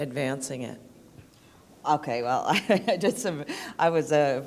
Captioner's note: laughter